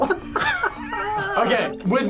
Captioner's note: group laughs